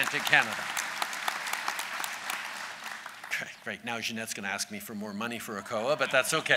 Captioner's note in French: Applaudissements; Rires